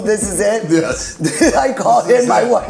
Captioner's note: laughs